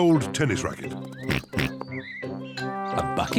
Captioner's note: oinks